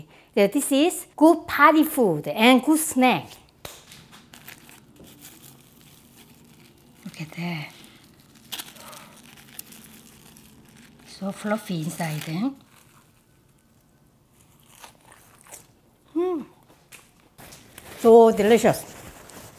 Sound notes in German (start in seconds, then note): 14.1 doughnut knuspern